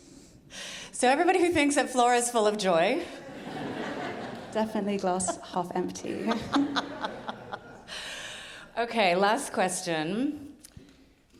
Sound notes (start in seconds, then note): 3.2 audience laughing; 6.6 laughing